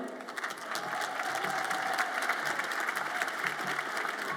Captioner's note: audience applauds